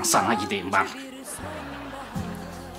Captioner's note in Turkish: Gülme efekti